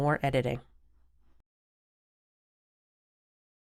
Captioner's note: silence